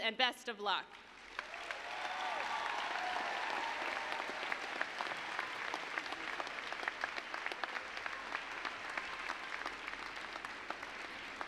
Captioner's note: applause, cheering